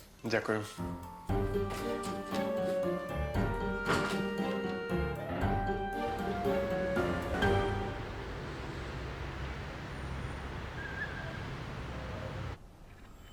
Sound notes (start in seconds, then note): 7.8 car sounds